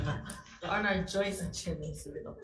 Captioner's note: all laughing